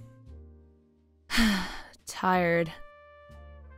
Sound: sigh

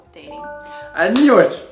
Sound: chimes

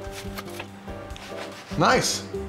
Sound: cardboard shifting

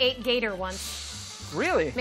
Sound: hissing

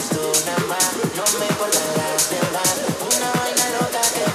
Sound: yelling

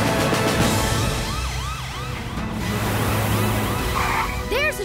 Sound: siren blaring

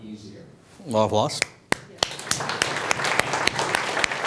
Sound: clapping

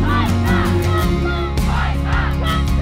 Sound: chanting: cut back - fight back

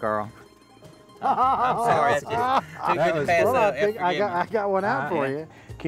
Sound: laughter

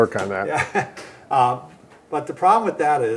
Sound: chuckles

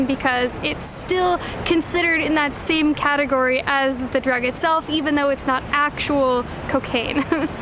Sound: giggles

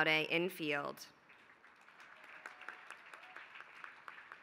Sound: applause

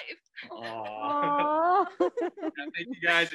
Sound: laughing

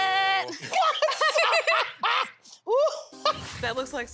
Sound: laughing

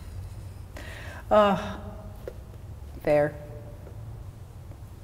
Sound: groaning

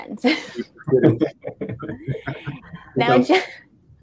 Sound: all laughing

